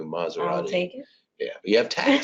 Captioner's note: laughs